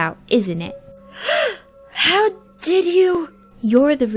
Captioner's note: gasp!